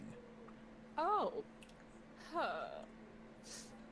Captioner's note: nervous noise